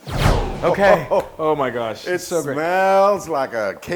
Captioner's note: laugh